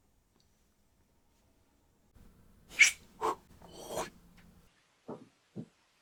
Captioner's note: makes sound of throwing and catching the ball